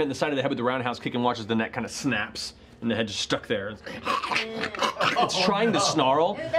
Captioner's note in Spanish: gruñendo